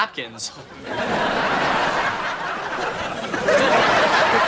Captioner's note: audience laughing